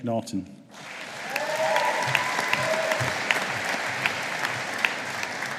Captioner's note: audience applauding